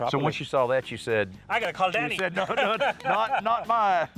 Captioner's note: laughs